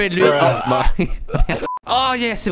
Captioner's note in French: rire